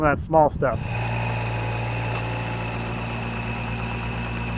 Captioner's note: engine rumbling